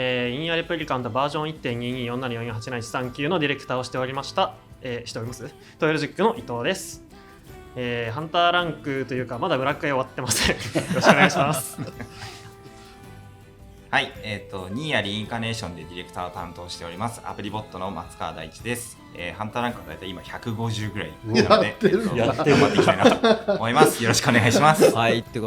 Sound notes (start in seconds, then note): 21.3 laughs